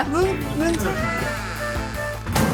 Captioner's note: creak